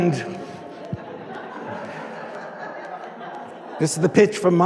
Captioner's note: audience laughing